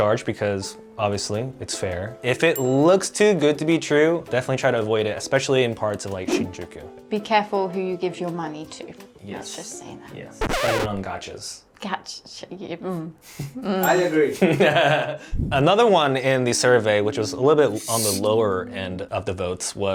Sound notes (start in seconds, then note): 14.5 chuckling